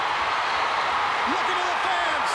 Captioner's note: crowd cheering